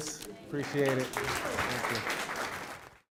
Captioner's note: applause